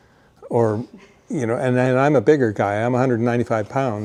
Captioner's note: chuckles